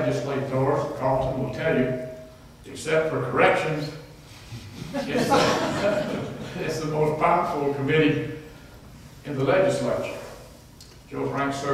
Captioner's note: laughter